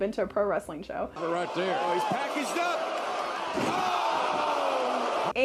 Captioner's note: crowd cheering